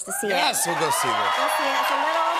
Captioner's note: cheers and applause